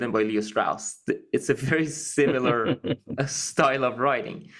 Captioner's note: laugh